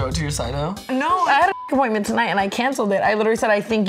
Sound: beep

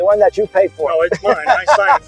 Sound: laughing

